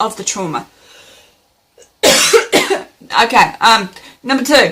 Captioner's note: coughs